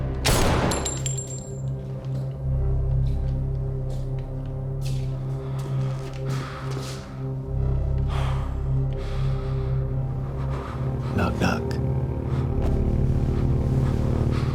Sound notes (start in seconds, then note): 0.2 gunshot blasts; 4.6 footsteps shuffling; 6.1 Tommy gasping